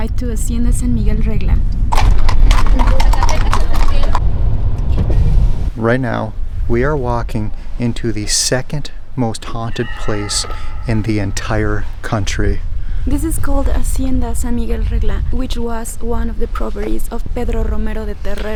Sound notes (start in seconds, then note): 1.8 horse hooves clopping